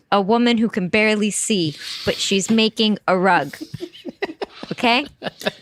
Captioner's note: laughter